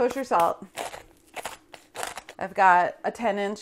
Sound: pepper grinder grinding

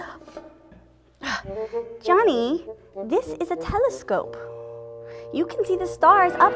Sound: gasps

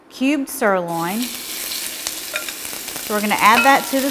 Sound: oil sizzles

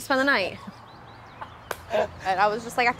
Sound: all laughing

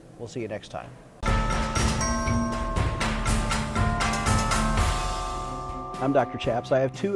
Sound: dramatic music; bells ringing

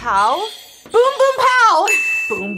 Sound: bell rings; buzzer rings

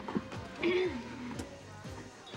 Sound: clearing throat

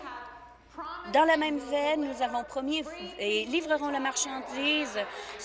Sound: applause

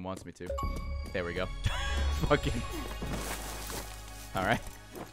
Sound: laughs

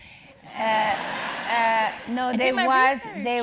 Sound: laugh

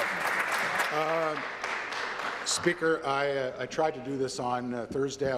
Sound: applause

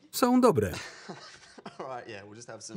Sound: laughter

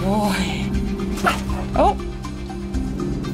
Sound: bark

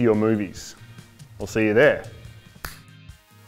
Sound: clicks fingers

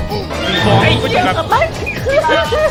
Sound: visible crying

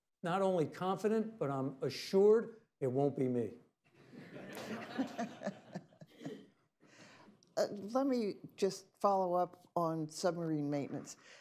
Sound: laughter

